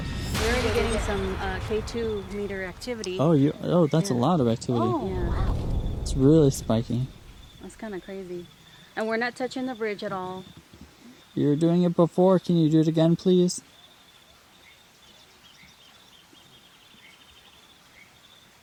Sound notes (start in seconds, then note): 7.9 car; 15.8 birds chirping